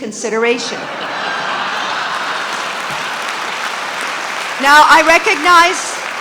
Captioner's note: audience applauding